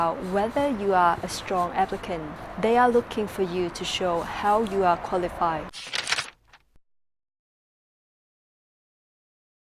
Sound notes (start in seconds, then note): 5.7 paper crumpling